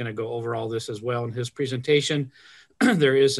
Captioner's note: clears throat